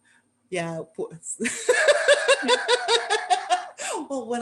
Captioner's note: laughter